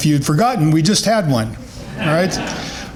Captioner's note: chuckles